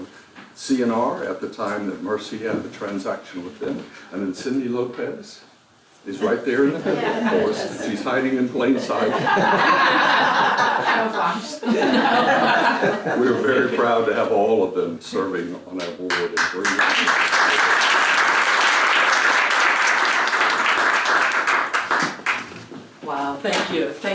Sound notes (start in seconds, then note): 8.7 laugh; 16.0 applause